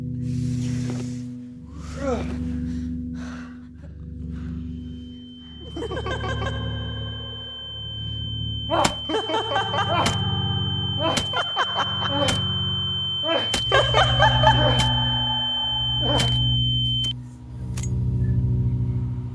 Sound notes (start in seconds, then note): 5.4 high pitched ringing, laughter; 12.6 smacking